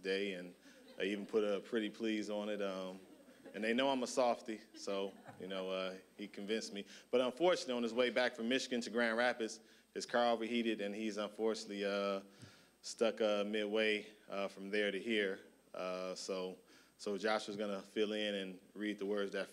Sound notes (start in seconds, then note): 2.7 audience laughing